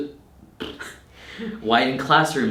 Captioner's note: trilling